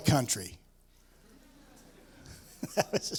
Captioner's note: laughter